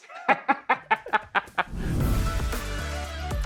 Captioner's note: laughs; upbeat music